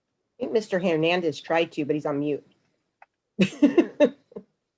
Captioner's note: laughs